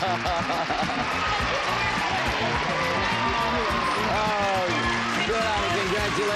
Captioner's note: applause